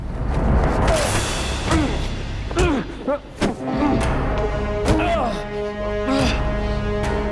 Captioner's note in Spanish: Golpes